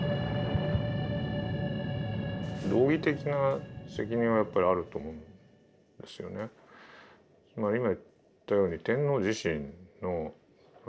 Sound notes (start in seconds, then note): 2.9 speaking in foreign language